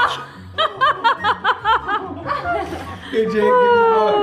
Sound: mom exclaims and laughs

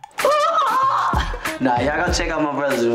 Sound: yelling

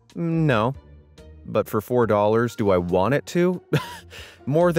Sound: laughs

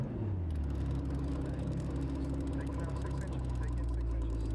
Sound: boat motor pulling forward

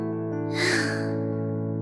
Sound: sigh

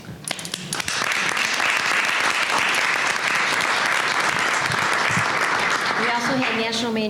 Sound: applause

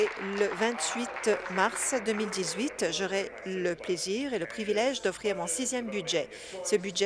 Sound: applause

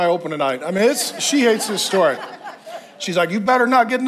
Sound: congregation laughs

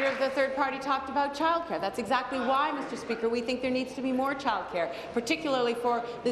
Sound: applause

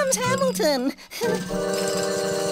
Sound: giggling

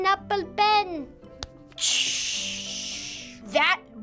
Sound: imitates cymbal crashing

